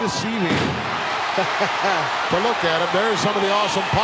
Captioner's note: hillbilly chuckling